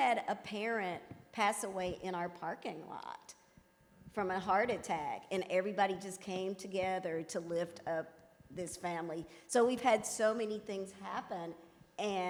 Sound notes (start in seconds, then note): none